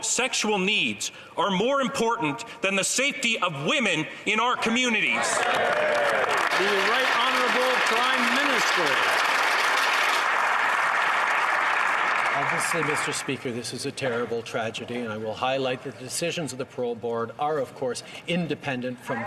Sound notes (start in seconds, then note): 8.7 some Applause